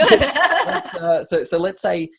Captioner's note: laughing